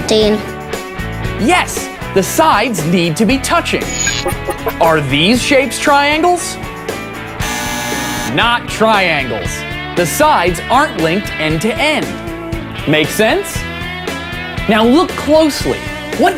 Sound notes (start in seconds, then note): 7.4 buzzer